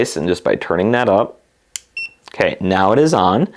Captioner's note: TENS unit beeps